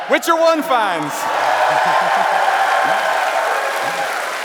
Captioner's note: applause